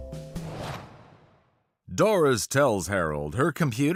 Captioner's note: speaking normally